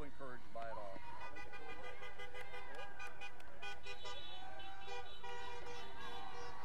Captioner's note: people cheering; vehicles honking